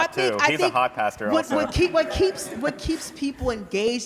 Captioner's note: laughter